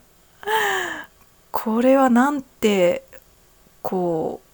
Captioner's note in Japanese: 息をのむ音